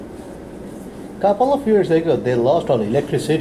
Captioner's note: voiceover